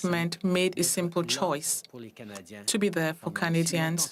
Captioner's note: speaking French